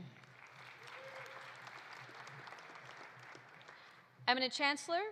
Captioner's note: audience applauding